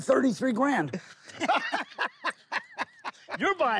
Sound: laughing

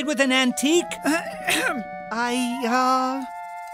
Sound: clearing of throat

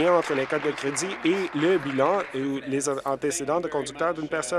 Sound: applause

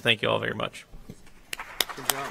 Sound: applause

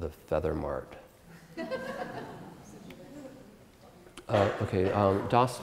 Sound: audience Laughter

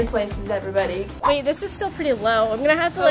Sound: air whooshing

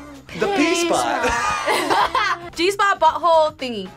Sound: laughs

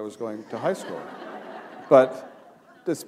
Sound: laughter

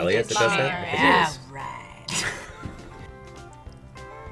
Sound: both laugh

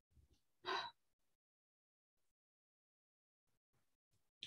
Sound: sighs

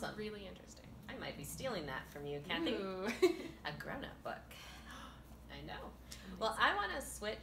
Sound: laughter; gasp

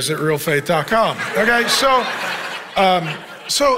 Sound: congregation laughing

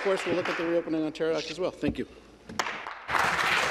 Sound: applause

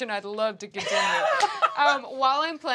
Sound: laughs

